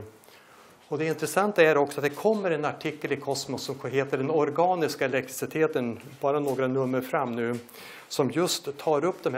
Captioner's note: in Danish